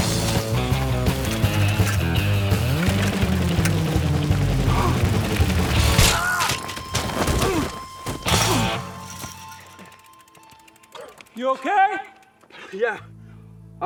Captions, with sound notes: (energetic guitar music continues) (biker gasps) (biker shouts) - You okay? - Yeah, I'm fine.